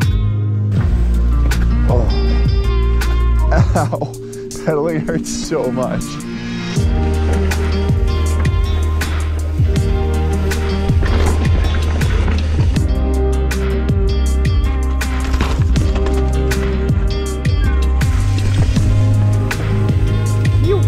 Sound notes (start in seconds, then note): 6.9 mellow synth music continues; 10.8 bike thuds softly; 15.9 gravel crunches softly; 18.6 mellow synth music continues; 20.6 exclaims softly